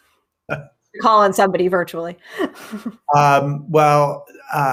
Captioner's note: laughs